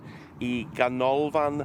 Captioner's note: speaking in Welsh